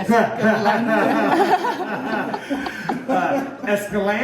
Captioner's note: all laughing